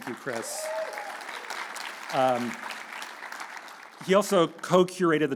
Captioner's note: audience cheering